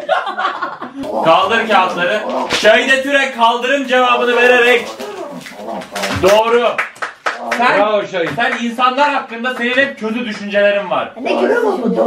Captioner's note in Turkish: kahkahalar; alkiş sesi̇